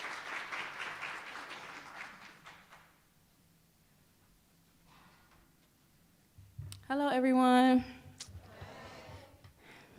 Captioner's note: applause